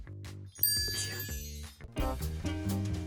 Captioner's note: chime dings; upbeat jazzy music